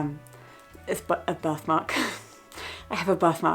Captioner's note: chuckling